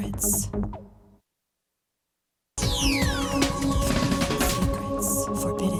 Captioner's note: lady whispering "secrets"; lady whispering "Forbidden Secrets"; lady whispering "secrets"